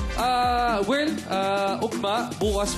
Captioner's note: in Bisaya